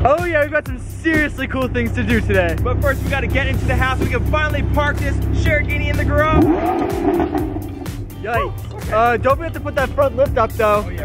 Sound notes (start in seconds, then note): 6.7 engine growls